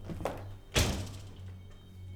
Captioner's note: door shuts